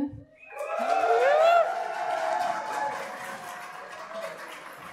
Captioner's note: cheering